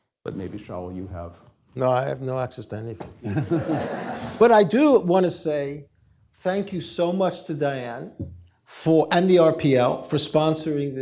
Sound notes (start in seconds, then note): 3.2 laughter